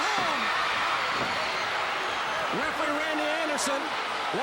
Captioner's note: crowd cheering